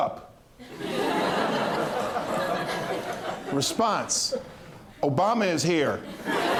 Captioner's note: laughter